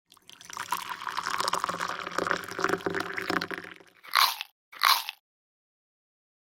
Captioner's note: sound of tea pouring and the crunching of a biscuit being eaten